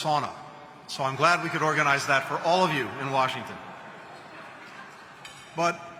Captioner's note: laughter